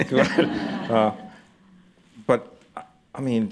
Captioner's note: laughter